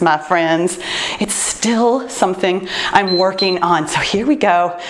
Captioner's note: timer beeps